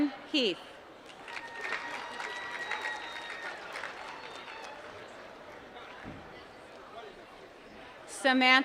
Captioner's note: applause